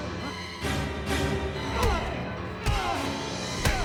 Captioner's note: Clive grunts